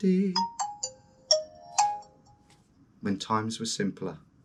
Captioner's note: phone chiming